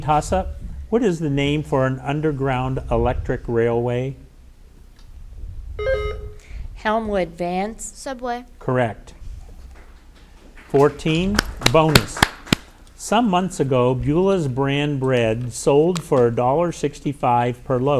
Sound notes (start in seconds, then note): 5.8 button buzzing; 10.7 audience applauding